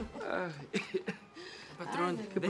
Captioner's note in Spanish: Benito tose